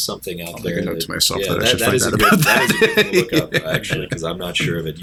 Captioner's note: laughter